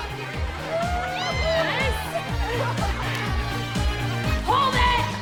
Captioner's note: audience cheering